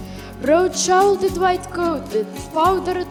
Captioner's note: in English